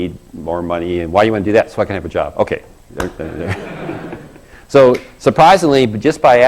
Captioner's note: laugh